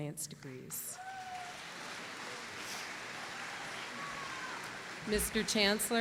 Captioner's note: applause